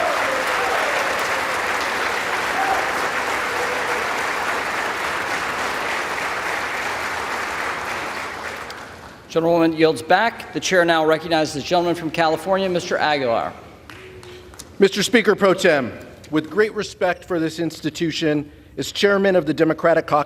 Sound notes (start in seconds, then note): 2.7 applause